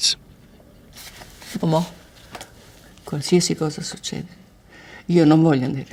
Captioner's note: speaks foreign language